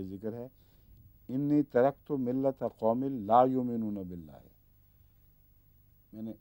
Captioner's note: Arabic